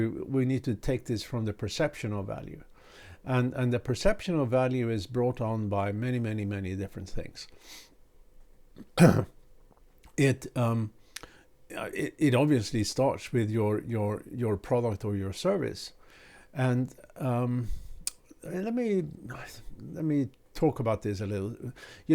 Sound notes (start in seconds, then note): 8.8 clears throat